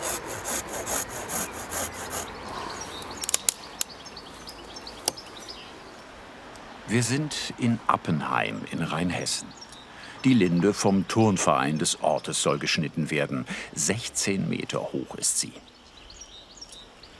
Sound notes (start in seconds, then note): 3.2 cracking; 15.7 birds chirping